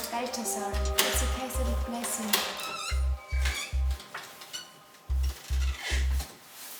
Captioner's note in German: Tür knarrt